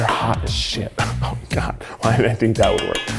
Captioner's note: laughing